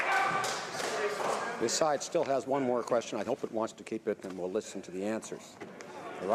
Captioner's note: some Applause